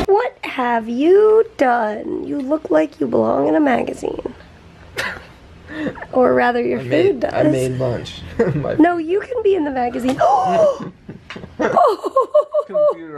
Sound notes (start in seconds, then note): 4.9 chuckles; 10.2 laughter; 10.5 gasps